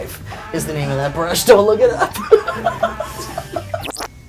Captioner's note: laughing